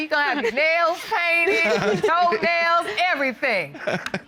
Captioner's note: laughing